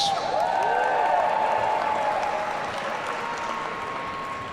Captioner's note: audience cheering